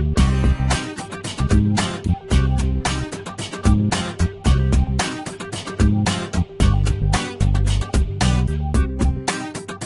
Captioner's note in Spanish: distorsión